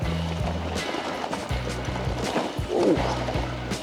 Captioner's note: bike rattles over rocks